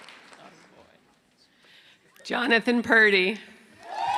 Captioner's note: cheering